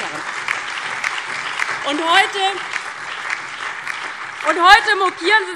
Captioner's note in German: Lebhafter Beifall DIE LINKE, BÜNDNIS 90/DIE GRÜNEN und SPD